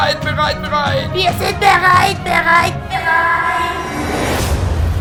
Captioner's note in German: Menge schreiend